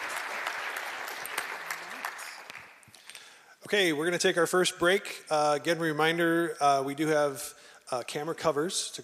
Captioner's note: applause